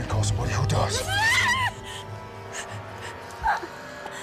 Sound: Demon cries out

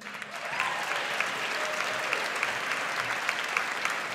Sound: audience applauds

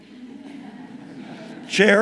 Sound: audience laughing

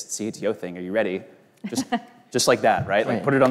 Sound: both laugh

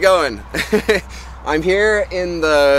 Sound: tourist chuckles

